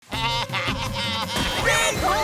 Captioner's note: baaing